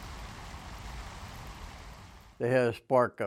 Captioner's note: water spraying